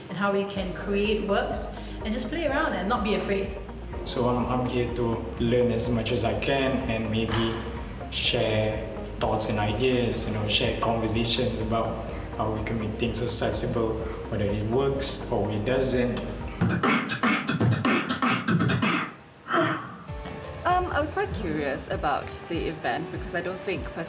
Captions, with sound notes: and how we can create works and just play around and not be afraid. So I'm here to learn as much as I can and maybe share thoughts and ideas, you know? Share conversations about how we can make things accessible, whether it works or it doesn't. (beatboxing) I was quite curious about the event because I don't think, personally,